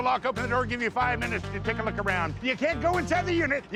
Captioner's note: none